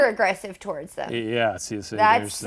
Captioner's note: stammering